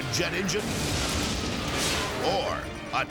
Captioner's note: engine exploding